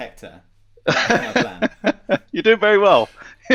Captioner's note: all laughing together